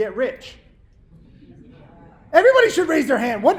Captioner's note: audience murmurs